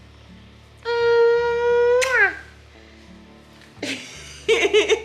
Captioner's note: kissing sound; laughing